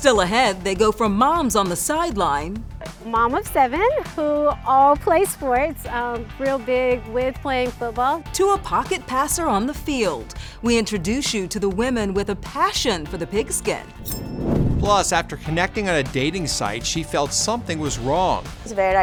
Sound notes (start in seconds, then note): 13.9 air whooshes